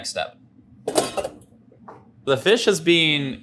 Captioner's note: tray clangs